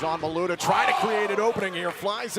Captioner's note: crowd chatter